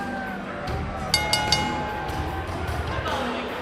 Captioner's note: bell ringing